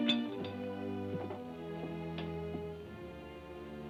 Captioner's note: dishes clatter